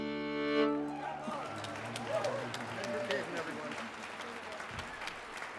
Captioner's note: audience cheers